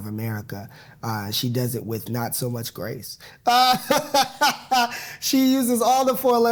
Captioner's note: laughing